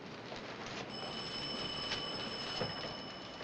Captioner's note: phones ringing